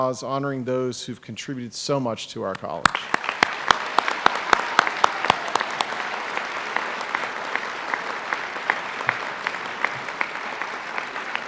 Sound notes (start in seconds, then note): 2.8 applause